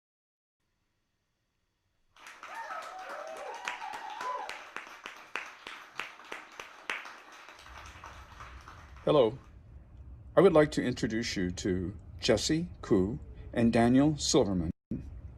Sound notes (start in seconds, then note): 2.1 applause and cheers